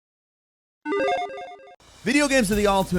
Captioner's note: logo beeping